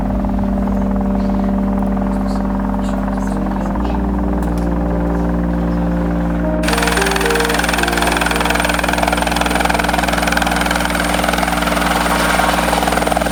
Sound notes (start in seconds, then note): 2.7 helicopter whirs